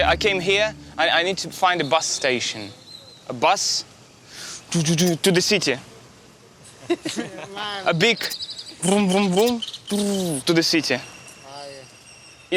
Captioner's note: speaking in English